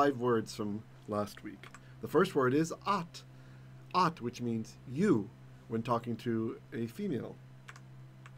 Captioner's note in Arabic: بالعبرية